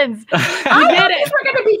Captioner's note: laughing